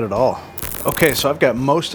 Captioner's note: static crackling